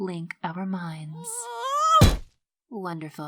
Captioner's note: silver spoon screams